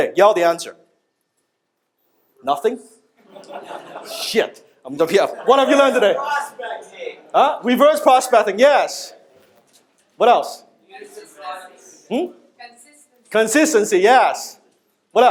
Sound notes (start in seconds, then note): 3.2 audience laughs